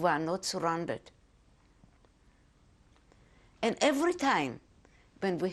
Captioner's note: pauses for 3 seconds